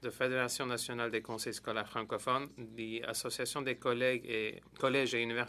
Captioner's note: speaking French